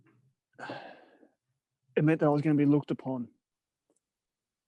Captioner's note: sighs